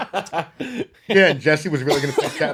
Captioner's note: laughing